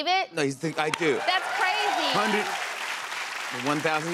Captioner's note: cheers and applause